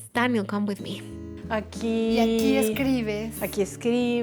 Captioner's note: both speaking Spanish